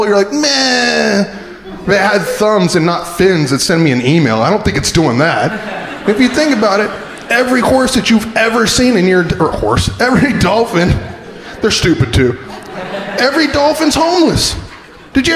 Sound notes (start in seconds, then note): 4.9 crowd laughing